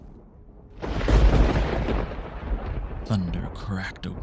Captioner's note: thunder and lightning